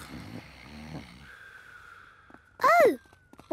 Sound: snoring

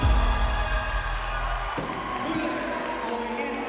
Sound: dramatic music; crowd cheering

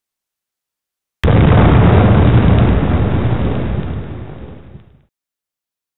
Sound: big explosion

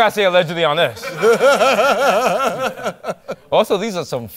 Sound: laughter

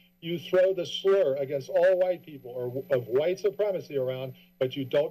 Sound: background conversations

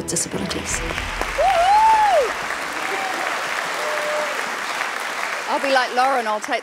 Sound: audience clapping and cheering

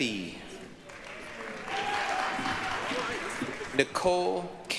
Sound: applause, cheering

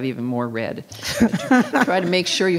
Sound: councilors laugh

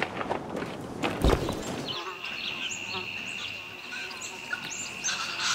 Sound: buzzing flies

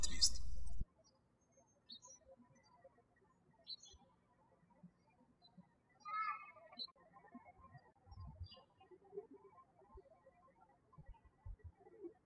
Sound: birds chirping

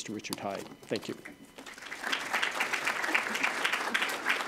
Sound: audience clapping

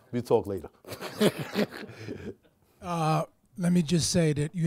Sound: laughs

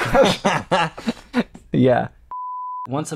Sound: laughter

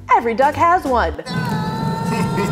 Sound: duck screaming; evil laughing

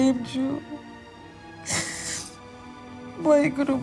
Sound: crying

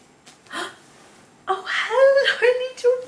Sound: gasps

